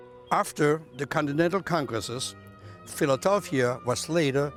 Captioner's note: none